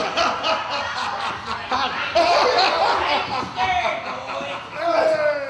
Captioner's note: gaudy laughter